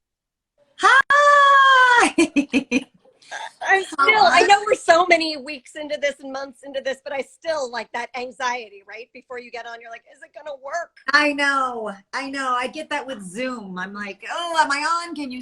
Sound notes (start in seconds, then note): 2.0 chuckles